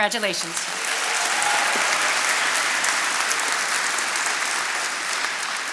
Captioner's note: attendees applauding